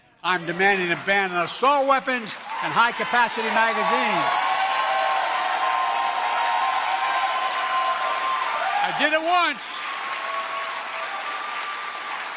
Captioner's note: applause